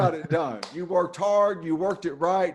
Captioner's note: claps hands